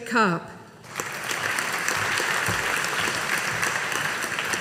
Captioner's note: audience applauding